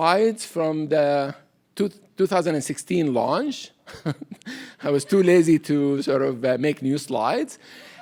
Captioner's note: chuckles